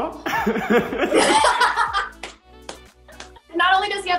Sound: Kaylee laughs; Quincy laughing

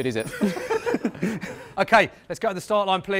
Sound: laughter

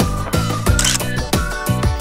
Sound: photo click

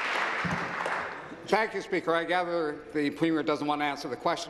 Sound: applause

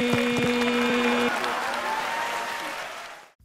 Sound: echoing stops

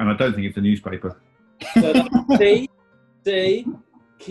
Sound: laughing

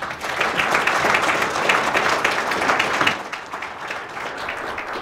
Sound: audience clapping

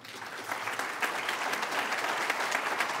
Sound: applause

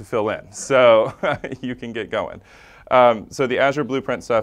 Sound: laugh

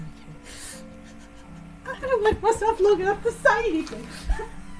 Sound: laughter

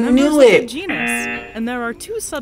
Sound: buzzer rings

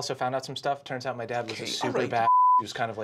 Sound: beeping

